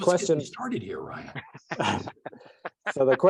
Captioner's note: chuckles